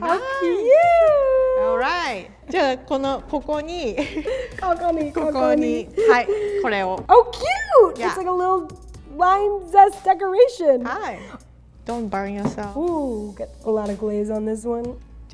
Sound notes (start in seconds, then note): 0.0 giggles; 2.6 both speak foreign langauge; 11.0 speaks in foreign language